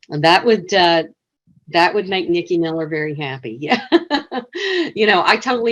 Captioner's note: laughs